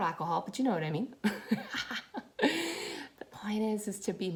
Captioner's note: laughs